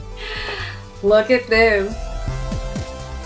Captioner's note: gasping